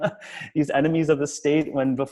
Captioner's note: laughs